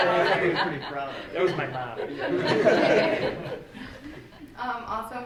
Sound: all laughing

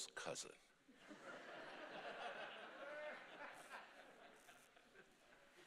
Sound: congregation laughing

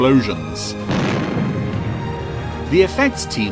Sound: booming

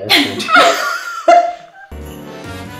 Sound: laughing; festive music

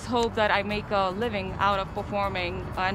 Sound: none

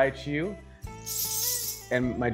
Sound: bells jingling

